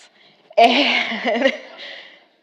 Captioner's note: laughs